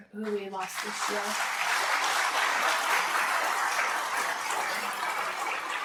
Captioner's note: applause